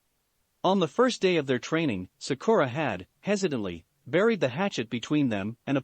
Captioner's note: hesitantly